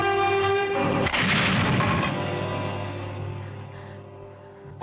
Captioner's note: shattering